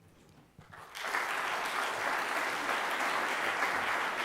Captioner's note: audience applauding